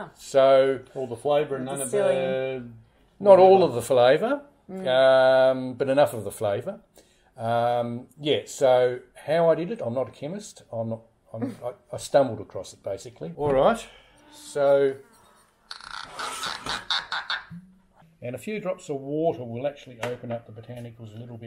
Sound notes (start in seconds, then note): 14.0 cork squeaking